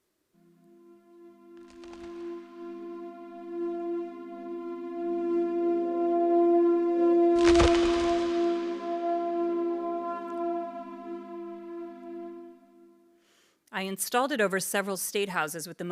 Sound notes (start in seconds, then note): 3.0 ominous music; 7.4 graphic cracking; 10.4 ominous music